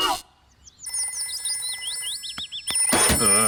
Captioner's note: phone rings